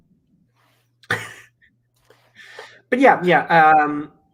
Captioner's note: chuckles